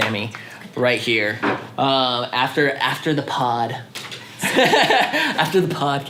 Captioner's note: laughs